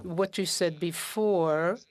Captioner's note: speaking French